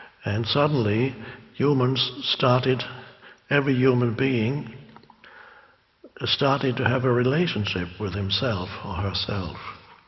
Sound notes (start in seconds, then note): none